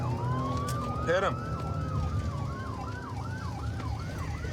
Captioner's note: sirens wailing